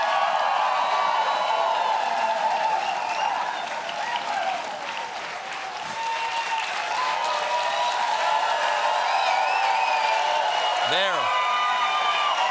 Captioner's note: cheering